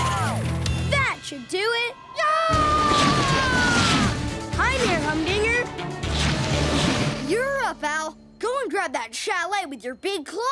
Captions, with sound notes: That should do it! [screaming] Hi, Mayor Humdinger! You're up, Al! Go and grab that chalet with your big claw.